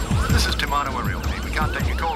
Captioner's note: siren wailing; recorded Message